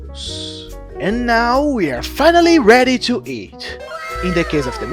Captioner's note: impressed weeb noises